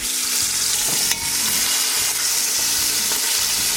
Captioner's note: oil sizzling